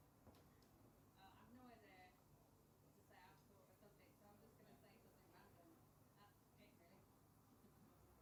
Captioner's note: this voice was extremely quiet